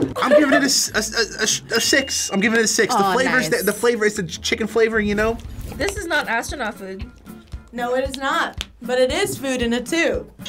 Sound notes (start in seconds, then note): 2.8 bell dinging